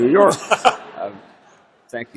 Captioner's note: laughter